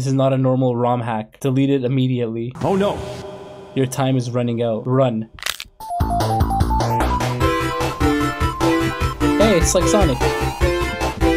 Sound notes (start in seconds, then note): 2.7 echoing Voice; 5.3 Sonic crunching; 5.8 upbeat video game music